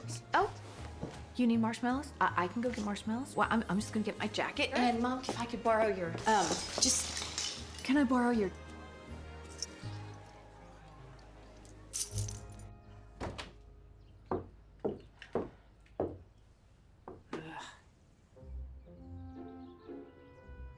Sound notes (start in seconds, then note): 9.2 keys jingle; 13.2 door opens, footsteps